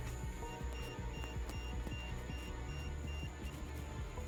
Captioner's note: EMF beeping